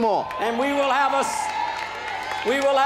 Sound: applause and cheering

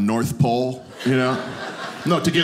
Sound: audience laughing

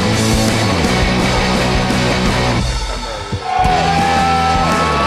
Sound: crowd; uplifting music; crowd; uplifting music

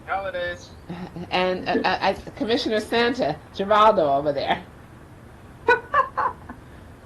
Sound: laughs

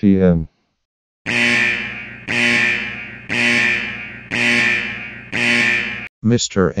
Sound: ZlConnect Alarm blaring

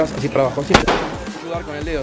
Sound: gun shoot

